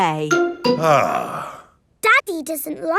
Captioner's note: sighs